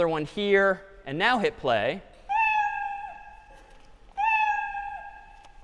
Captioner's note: meowing